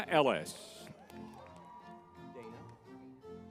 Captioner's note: crowd cheering